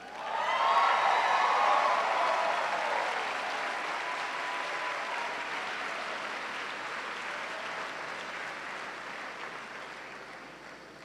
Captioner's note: cheers and applause